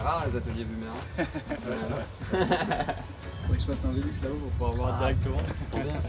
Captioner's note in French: rires